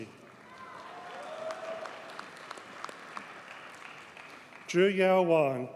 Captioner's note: audience cheers and applauds